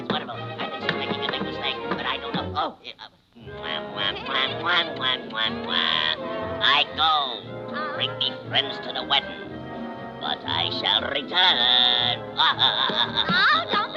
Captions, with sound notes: Oh, it's wonderful! I think she's making a big mistake, but I don't know. Oh! (kissing smacks) I go, bring me friends to the wedding, but I shall return. (chuckling)